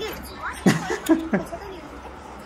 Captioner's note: laughing